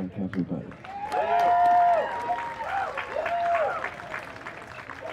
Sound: more clapping and cheering

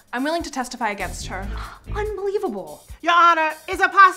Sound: scoffs

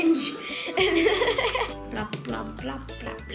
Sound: laughing

